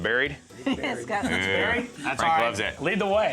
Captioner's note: laughs